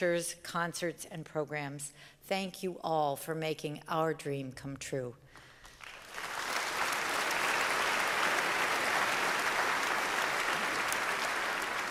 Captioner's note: applause